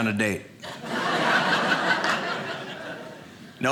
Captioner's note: audience laughing